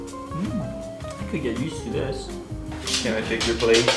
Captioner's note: moans